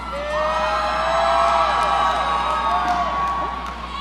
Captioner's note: audience cheering